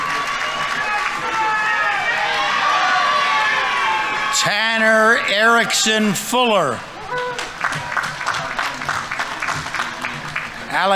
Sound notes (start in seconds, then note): 0.0 audience applauding; 0.0 audience members cheering; 2.0 audience members cheering; 7.0 audience members cheering; 7.0 audience applauding